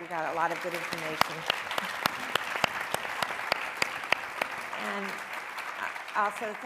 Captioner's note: and audience applauding